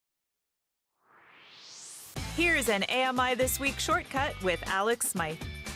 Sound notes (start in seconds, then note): 0.9 swoosh